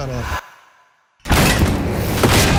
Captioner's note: door crashing; guns firing